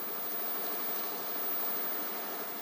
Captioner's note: whirring